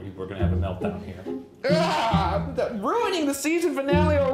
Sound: yelling

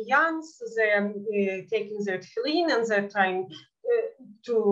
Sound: speaking in Yiddish; speaking in Yiddish

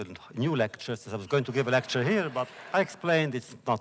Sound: laughter

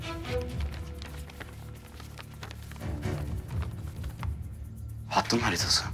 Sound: paper sound

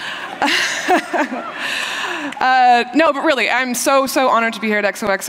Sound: laughter

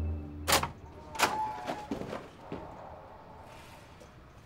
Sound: door squeaks open

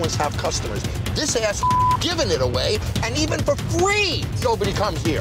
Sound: beep

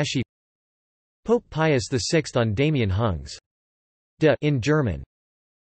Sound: in German

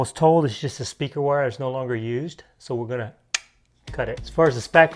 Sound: clicks

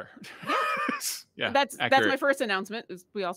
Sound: laughs

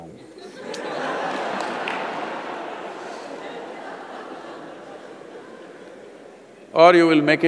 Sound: laughter

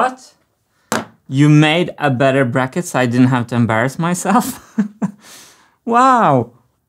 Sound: chuckles

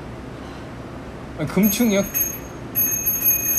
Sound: ring Ring

